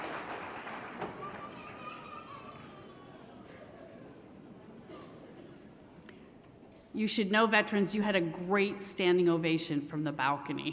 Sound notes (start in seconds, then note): 0.0 applause; 0.0 crowd Noise